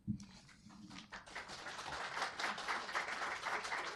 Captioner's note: applause